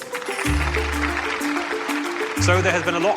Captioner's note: audience clapping